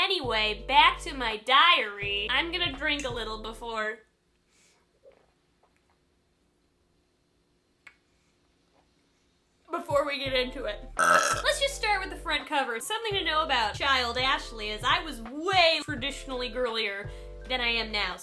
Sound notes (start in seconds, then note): 5.3 long gulping drinks of beer; 11.0 loud belch